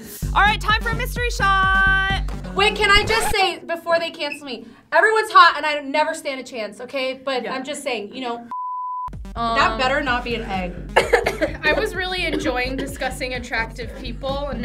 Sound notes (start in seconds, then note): 8.5 beep